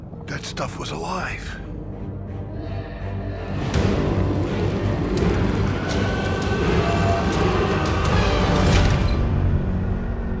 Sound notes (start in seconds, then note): 3.7 dramatic music continues; 5.4 people screaming